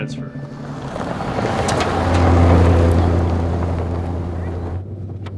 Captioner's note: car whirring